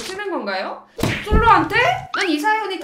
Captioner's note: shot gun